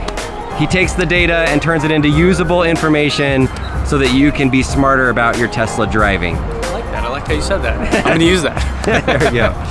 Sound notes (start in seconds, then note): 7.8 laughter